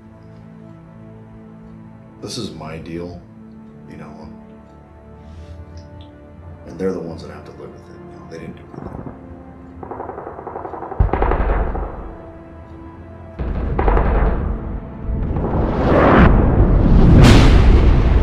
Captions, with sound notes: This is my deal...you know. And they are the ones that have to live with it. They didn't do anything. (Gun Fire)